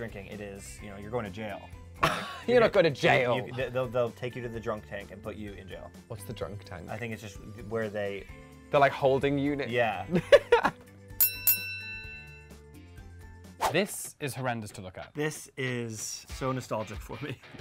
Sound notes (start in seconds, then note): 2.1 laughs; 11.1 chiming